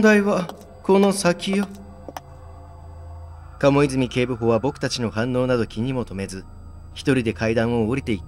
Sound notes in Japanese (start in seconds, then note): 1.0 足音：コツコツコツ